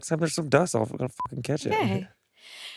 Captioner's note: beep